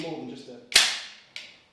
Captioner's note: snap